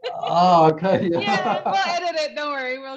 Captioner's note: laughs